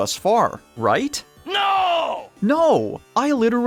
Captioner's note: Announcer guy from Smosh's Food Battle screaming "NO!"